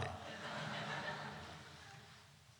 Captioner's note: laughter